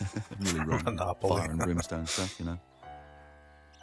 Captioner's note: chuckling